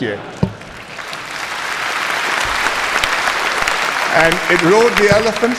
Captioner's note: applause